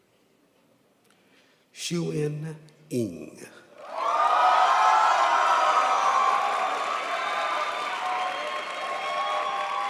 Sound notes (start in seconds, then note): 3.8 crowd applauds